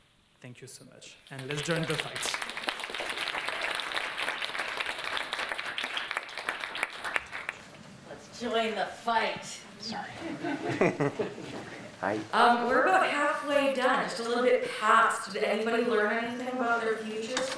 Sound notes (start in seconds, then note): 1.2 audience applauding; 10.2 audience laughing